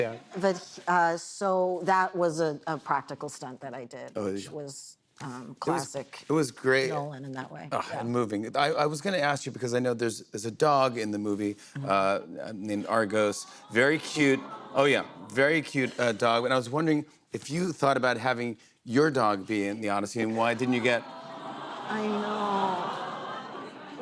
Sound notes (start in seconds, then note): 21.1 audience awws